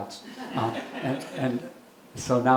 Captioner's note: audience laughing